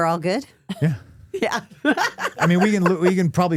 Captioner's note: laughing